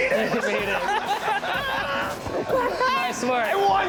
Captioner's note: laughter